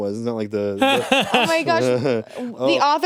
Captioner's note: laughs